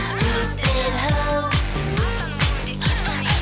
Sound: woman speaking Japanese

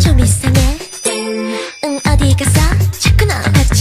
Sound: ding!

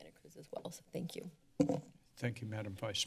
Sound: mic noise

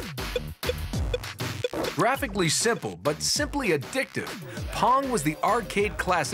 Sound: arcade sounds

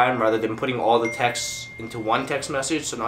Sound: text tone

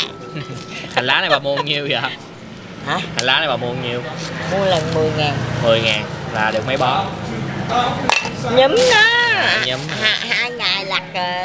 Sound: chatting and laughing

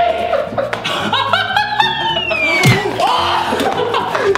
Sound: laughs

